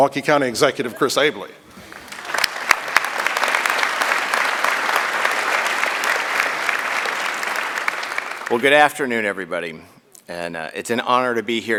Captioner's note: applause